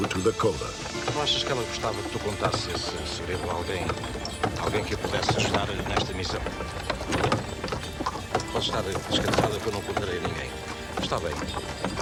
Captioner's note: speaking portuguese